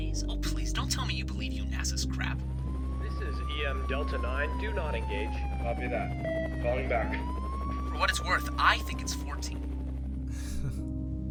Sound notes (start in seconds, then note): 3.5 radio; 10.3 chuckle